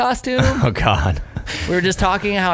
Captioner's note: laughing